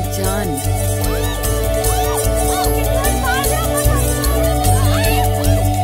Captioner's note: Girls shouting playfully